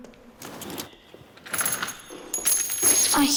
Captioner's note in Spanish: Ruido de monedas al caer